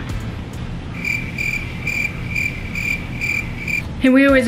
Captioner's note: crickets chirping